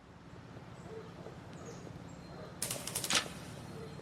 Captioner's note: birds chirping